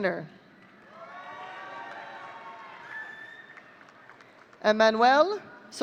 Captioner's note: audience cheering